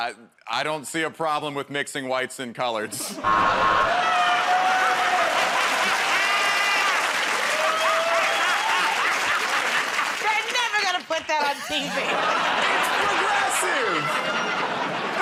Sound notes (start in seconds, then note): 3.2 cheers and applause; 3.3 buzzer; 8.7 laughs